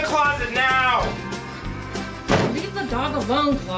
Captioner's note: door slams